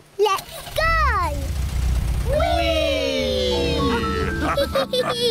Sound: all laugh

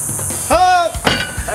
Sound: tribal call

